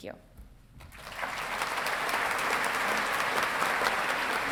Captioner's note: audience clapping